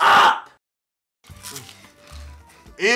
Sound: munching

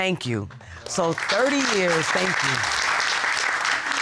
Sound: audience applauding

